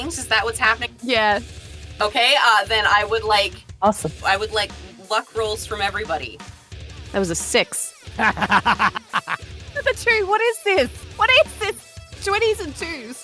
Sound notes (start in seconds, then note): 8.2 laughs